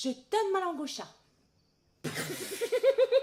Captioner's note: giggling